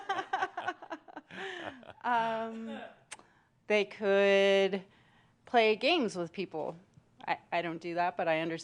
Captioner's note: they laugh